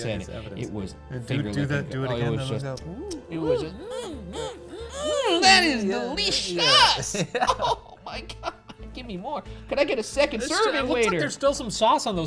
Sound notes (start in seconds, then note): 2.8 smacks lips